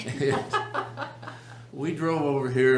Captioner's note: laughs